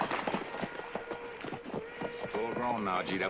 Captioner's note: horn blowing